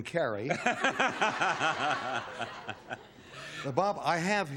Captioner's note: laughter